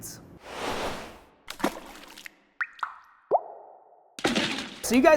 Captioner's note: water dripping